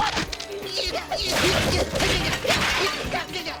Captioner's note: grunting